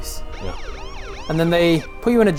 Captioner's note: sirens